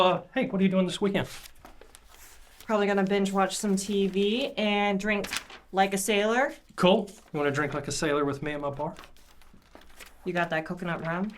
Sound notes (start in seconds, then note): none